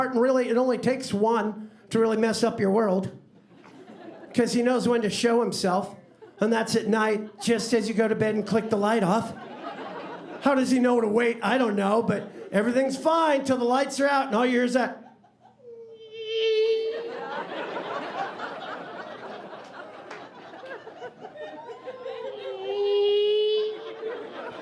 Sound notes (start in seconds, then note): 15.3 buzzing; 16.7 audience laughing; 22.3 buzzing